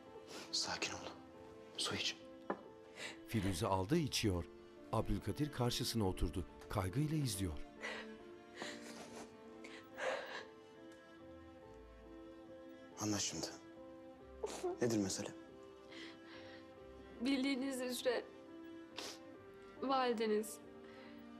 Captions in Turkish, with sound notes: Sakin ol. Su iç. (Nefes sesi) (Burun çekme sesi) (Nefes sesi) Anlat şimdi. Nedir mesele? Bildiğiniz üzere... ...valideniz...